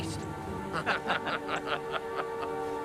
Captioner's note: laughing